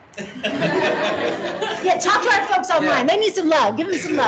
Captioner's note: laughing